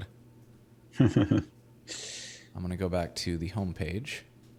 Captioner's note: laughing